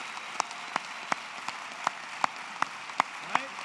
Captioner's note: applause